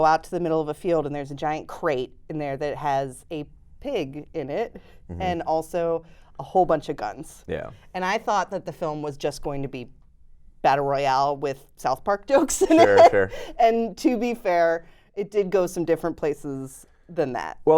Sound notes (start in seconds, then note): 12.4 laughs